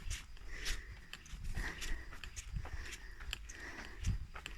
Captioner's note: steps